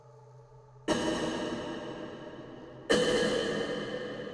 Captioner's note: coughs echoing